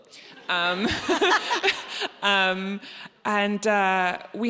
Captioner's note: audience laughs